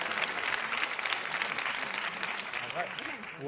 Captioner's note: crowd groans; applause